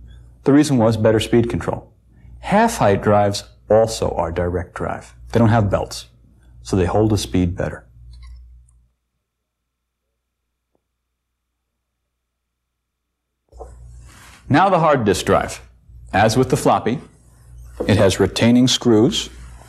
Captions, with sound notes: The reason was better speed control. Half height drives also are direct-drive. They don't have belts, so they hold a speed better. (silence) Now, the hard disk drive. As with the floppy, it has retaining screws,